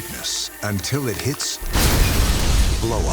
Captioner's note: glass smashing